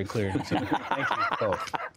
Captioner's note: laughter